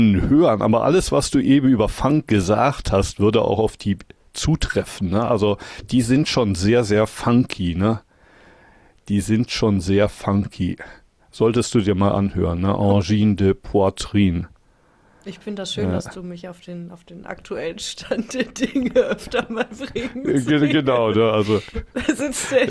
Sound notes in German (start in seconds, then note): 18.2 gelächter